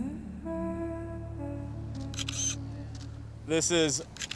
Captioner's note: camera clicking